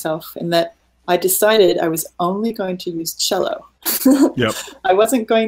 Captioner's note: laughing